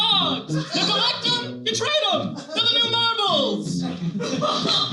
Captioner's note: Jerry Seinfeld Voice